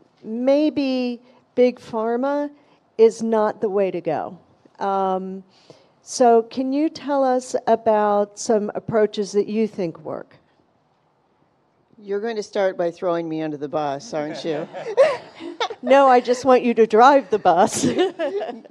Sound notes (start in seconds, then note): 14.1 audience and panelists laughing; 14.1 laughs; 18.2 laughs